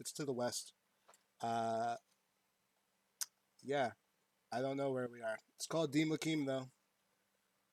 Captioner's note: sucks teeth